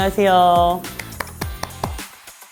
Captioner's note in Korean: 짝짝짝짝짝